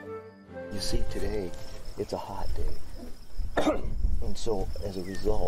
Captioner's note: coughs